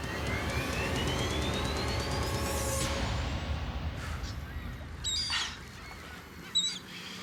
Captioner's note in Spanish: graznido de las aves